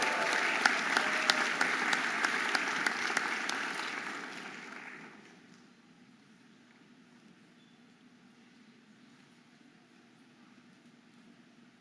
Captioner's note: audience applauding and cheering